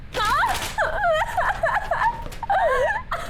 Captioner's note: sound of a woman crying